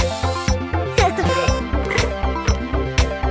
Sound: giggling

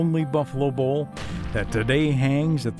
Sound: gunshot

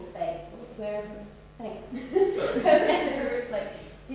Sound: laughs

